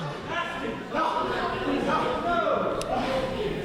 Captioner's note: men shouting